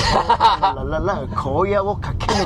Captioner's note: laughs